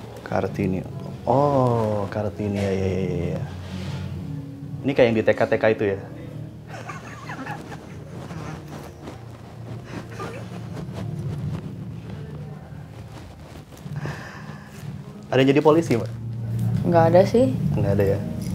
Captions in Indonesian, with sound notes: Kartini, oh ya ya Ini kayak yang di TK-TK itu, ya? (awkward laugh) (still awkward laugh) Ada yang jadi Polisi, mba? Enggak ada, sih Enggak ada ya?